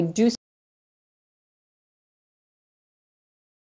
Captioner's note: silence